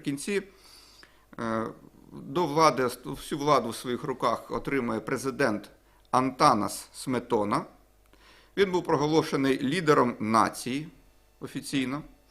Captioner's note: in Lithuanian